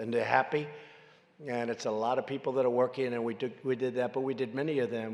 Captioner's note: none